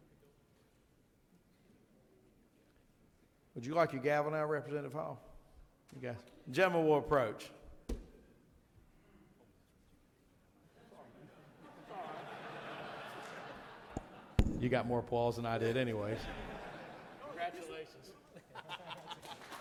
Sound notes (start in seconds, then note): 11.2 hand thumps; 15.9 audience laughing